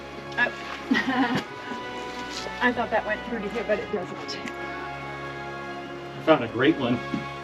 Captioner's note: laughing